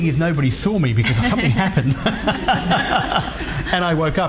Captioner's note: laughs